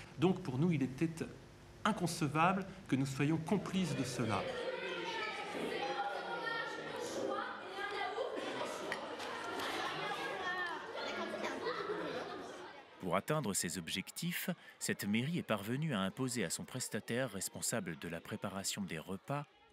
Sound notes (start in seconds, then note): 4.6 indistinct chatter